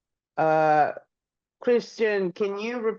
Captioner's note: speaking in Portuguese